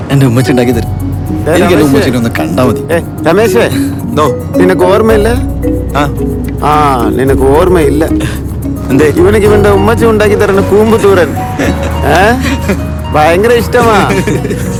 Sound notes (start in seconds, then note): 11.4 all laughing